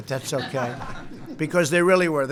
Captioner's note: laughter